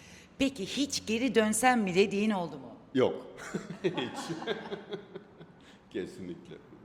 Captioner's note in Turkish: kahkaha